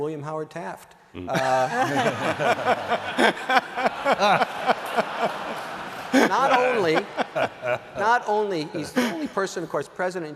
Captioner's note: laughter